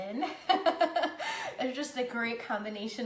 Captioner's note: laughing